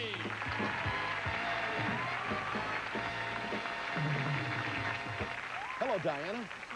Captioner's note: audience applauding